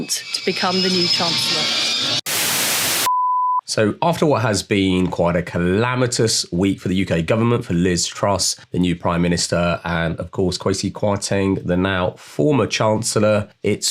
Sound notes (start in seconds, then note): 2.5 TV static; 3.3 beeping